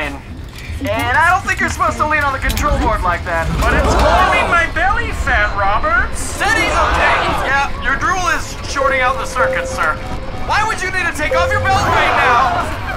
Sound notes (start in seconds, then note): 9.3 beeping